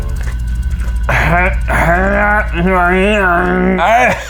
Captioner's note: crunching sound; grunting